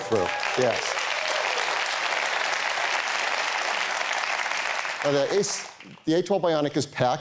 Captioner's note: applause